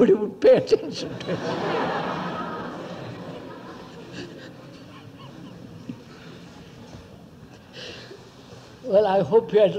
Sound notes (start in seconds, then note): 3.2 laughter; 5.1 laughs